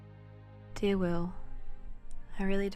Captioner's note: voiceover